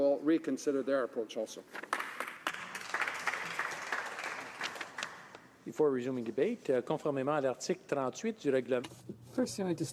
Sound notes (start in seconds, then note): 6.3 some Applause